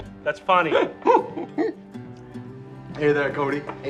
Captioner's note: laughing